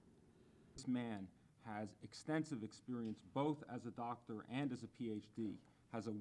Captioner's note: man talking